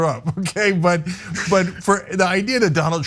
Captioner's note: laugh